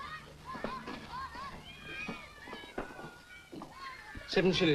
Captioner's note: children playing happily in distance